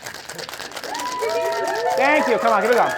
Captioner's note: applause from audience